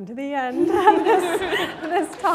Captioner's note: laughter; applause